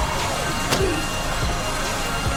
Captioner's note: paintball gun fires